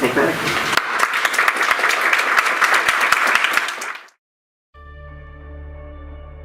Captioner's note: audience applauds; inspiring music